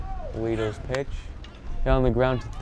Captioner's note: bat cracks